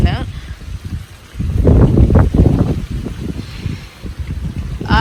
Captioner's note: wind blows heavily